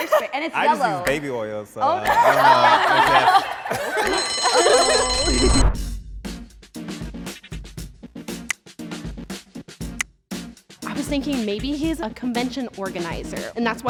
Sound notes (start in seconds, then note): 1.9 laughter; 4.4 timer chimes; 5.3 woosh; 6.2 upbeat music; 8.1 click